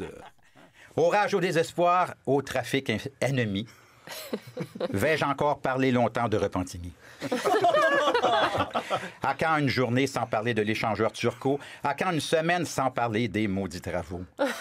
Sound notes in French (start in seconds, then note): 7.2 rires